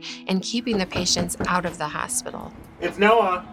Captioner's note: knocking on door